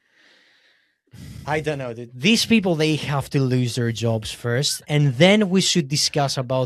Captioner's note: sighs